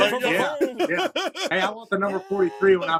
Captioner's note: laughter